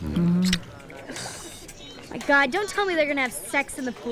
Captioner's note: Groans